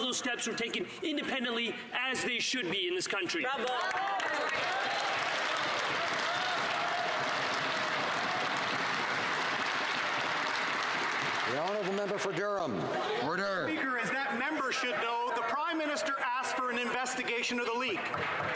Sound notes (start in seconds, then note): 6.5 some Applause